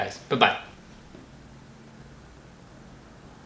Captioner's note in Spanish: Silencio